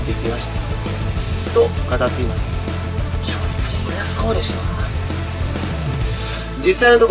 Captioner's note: laughs